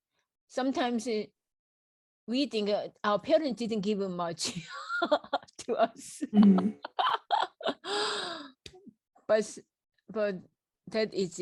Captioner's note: laughs